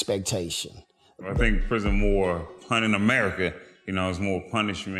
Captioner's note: murmurs